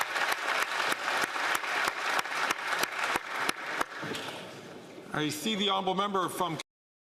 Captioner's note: applause